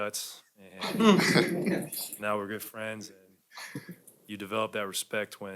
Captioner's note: laughter